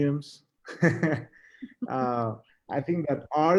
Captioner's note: both laughing